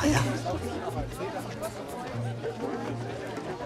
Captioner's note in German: Gespräche im Hintergrund